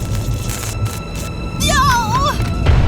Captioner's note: wind howling; electricity fizzes; boom